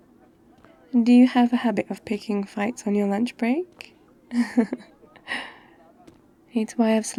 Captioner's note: laughs